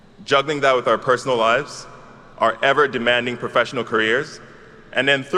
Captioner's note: none